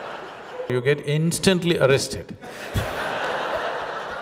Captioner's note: laughter